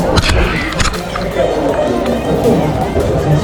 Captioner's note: laughing; latching